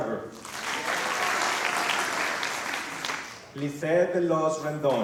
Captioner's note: applause